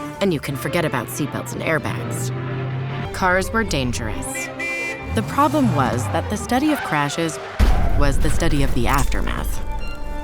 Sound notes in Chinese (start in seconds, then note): 3.1 汽車喇叭聲